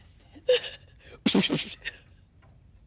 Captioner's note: whispers; laughs and imitates explosions